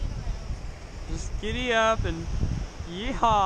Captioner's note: exaggerating